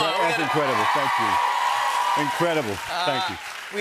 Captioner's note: cheers and applause